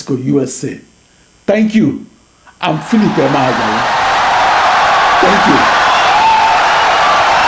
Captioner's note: wild applause and cheering for 17 seconds